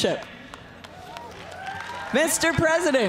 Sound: cheers and applause

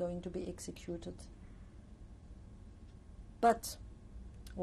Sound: pauses for 3 seconds

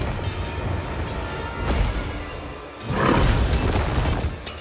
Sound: whooshing

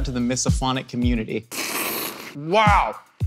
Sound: mouth sucking

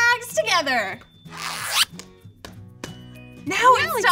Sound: bag zips

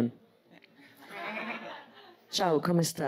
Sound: laughs

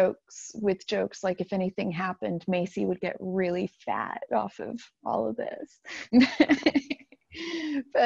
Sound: laughs

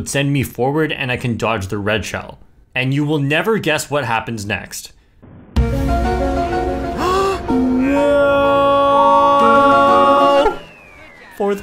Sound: gasps

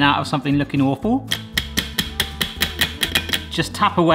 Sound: tray tapping

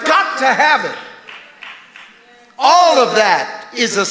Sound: congregation applauding

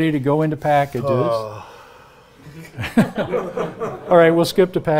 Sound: audience chuckling; grunts

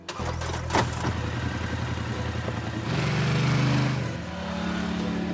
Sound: ATV engine roaring

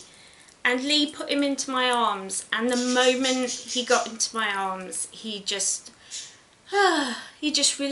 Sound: sighs

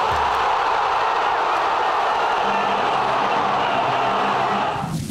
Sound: crowd roaring with joy

